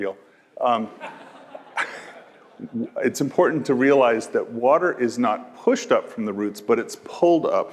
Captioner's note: laugh